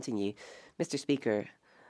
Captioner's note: speaking French